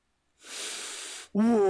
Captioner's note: inhale